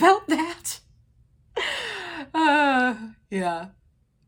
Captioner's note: sighs